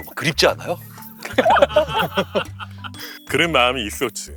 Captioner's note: scratching